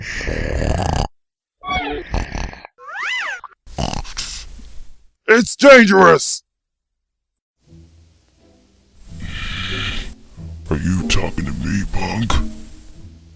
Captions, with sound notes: (snorts) It's dangerous! (snoring) Are you talkin' to me punk?